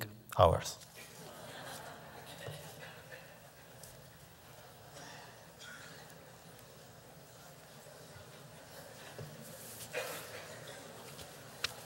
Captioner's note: laughter